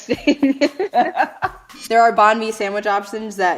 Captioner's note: laughing